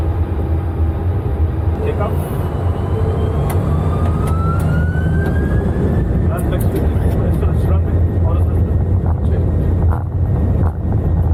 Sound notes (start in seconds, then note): 3.0 airplane's engine whirring